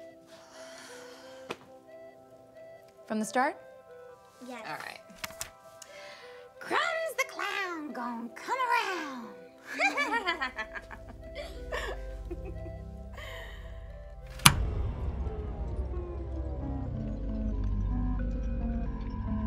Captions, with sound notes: From the start? - Yes. - All right. “Crumbs The Clown gon’ come around!” [Creepy Laugh] [Both Laugh]